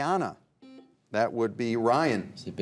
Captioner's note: buzzer buzzes